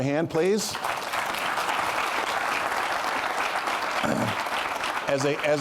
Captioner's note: applause